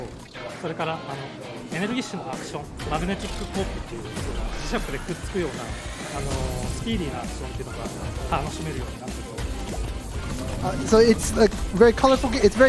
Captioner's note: speaking foreign language